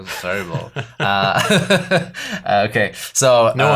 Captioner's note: laughs